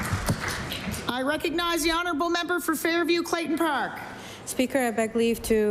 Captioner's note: applause